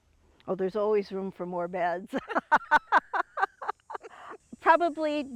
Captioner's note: laughs